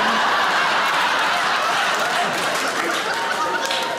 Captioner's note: audience laughing